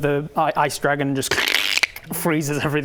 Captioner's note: crrrkkk